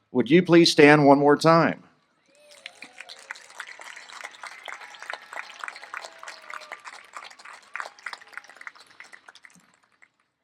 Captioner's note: applause